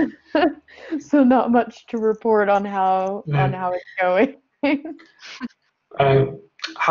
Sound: laughing

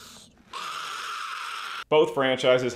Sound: Gollum roaring

